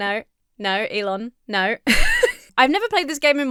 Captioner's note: laughs